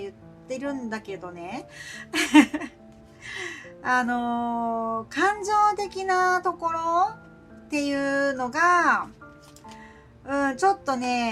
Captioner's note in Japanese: 笑い